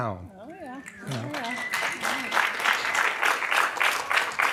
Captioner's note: applause